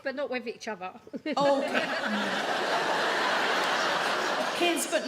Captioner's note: audience laugh